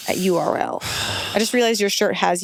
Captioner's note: sighs